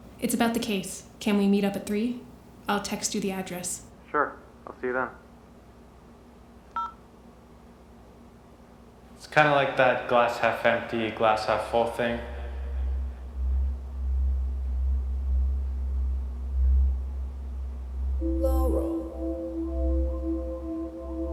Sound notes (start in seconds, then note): 9.8 Bob's echoed voice